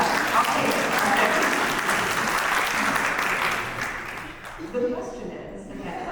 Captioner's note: audience applauds